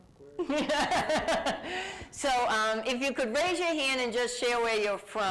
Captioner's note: laughs